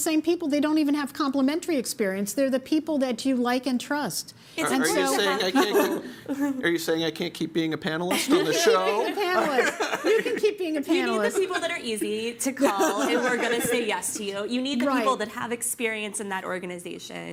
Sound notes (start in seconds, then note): 8.1 laughter